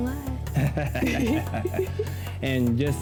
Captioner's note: both laugh